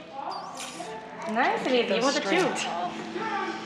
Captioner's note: murmurs